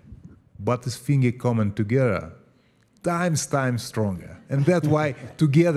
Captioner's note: laugh